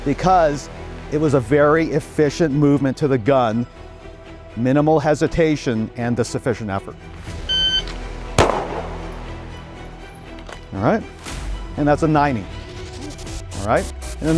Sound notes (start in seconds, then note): 7.4 electronic beeping; 8.3 gun firing